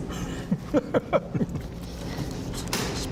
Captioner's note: laughter